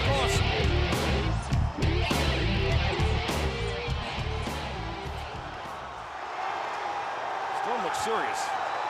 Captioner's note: crowd cheering